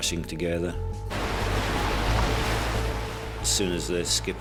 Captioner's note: waves crash